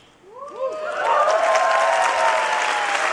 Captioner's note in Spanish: Aplausos